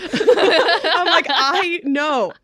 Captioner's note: hosts laugh